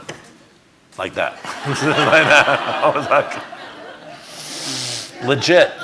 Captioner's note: audience laughing